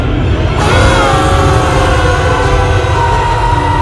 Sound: everyone Screaming

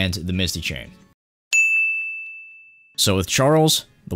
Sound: ding!

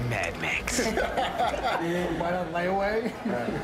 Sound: laughter

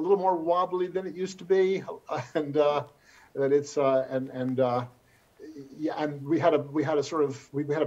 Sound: chuckles

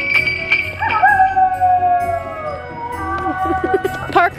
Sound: bells jingling; wolf howling; Stephen laughing

